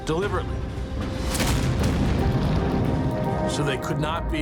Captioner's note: explosion booms